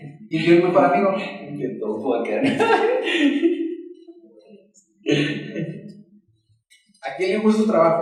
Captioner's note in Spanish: risas